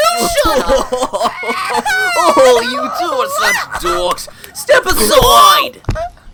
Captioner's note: laughing